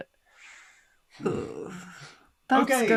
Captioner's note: groans